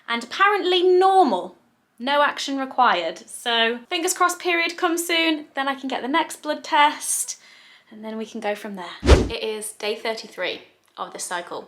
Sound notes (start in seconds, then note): 9.0 video swooshing